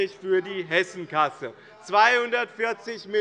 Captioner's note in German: Zurufe von der SPD